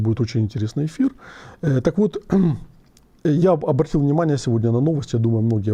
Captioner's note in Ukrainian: прочищення горла